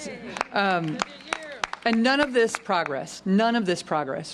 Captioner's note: applause